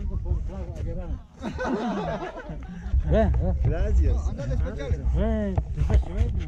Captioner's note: lots of Laughter!